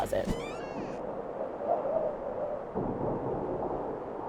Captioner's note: wind whistling